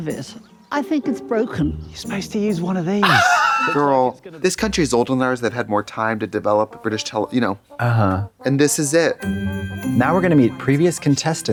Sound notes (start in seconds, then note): 9.0 festive chime